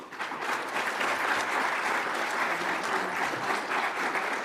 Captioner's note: audience applauds